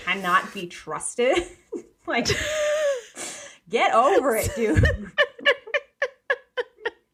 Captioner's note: laughing